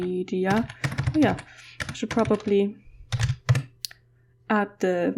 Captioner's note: typing